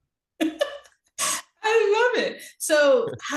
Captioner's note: chuckles